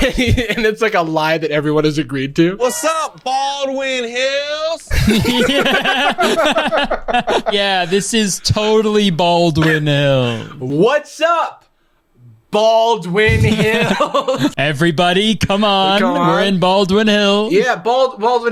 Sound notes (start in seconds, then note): 4.8 pair laughs